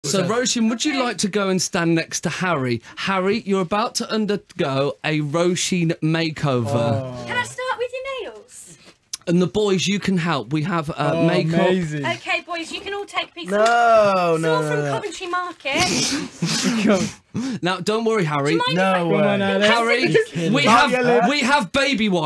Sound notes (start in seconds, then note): 16.3 snickering